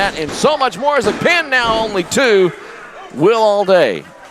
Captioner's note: fist slamming